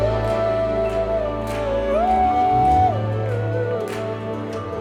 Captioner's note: ooing